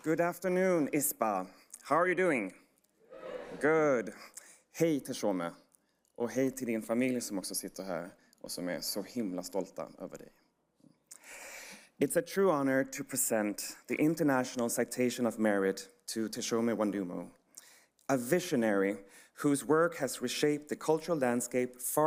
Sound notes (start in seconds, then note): 5.2 speaking foreign language